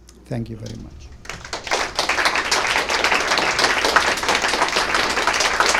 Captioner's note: applause